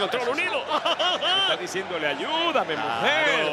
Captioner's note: laugh